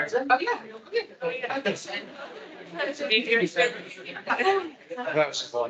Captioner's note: attendees chattering